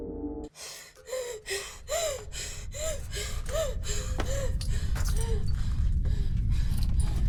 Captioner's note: Abby pants; faint rumble